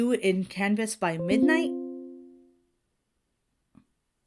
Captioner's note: notification dings